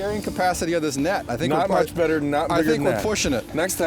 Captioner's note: voiceover